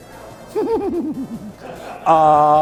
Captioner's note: laughs